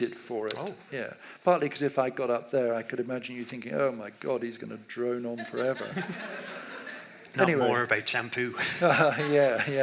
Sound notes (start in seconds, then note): 5.4 audience laughs; 8.6 laughs